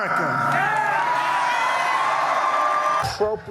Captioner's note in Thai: เสียงโห่ร้องเซ็งแซ่